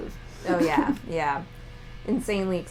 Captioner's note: laughter